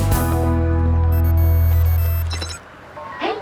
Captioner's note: ring